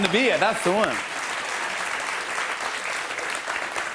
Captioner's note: applause